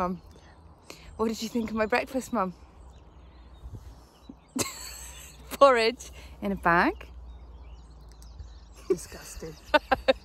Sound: laughs

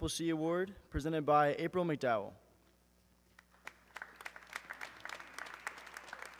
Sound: audience clapping

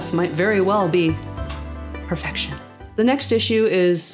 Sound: mwah

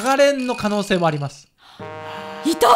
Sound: gasps

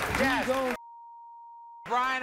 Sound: beeping

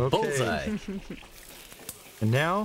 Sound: laughter

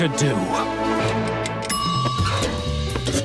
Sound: dinging

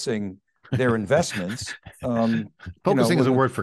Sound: laughing

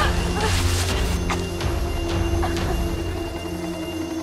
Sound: grunts, whimpers; coughs; speaks Arabic

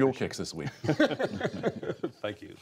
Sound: laughter

